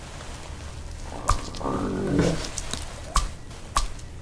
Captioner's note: stomach sounds